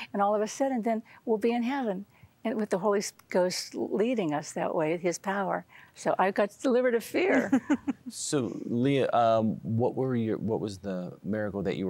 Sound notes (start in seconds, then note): 7.3 giggling